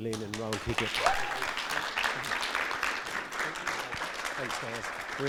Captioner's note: audience clapping